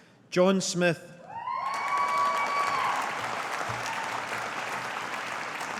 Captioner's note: audience applauding